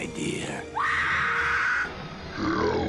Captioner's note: more screaming